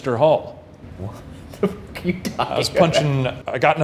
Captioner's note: laughing